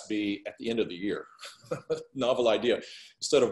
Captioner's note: chuckles